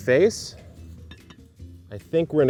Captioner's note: olla lid rattles